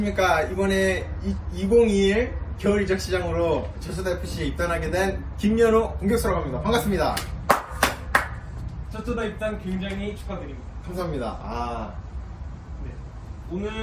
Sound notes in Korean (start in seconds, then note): 7.4 박수